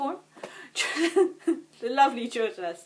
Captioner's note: giggles